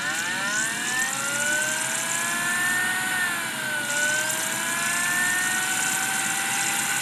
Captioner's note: Dreamcast revs up like it's about to activate light speed